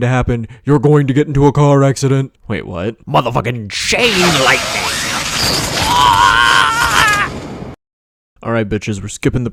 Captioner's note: screams of anguish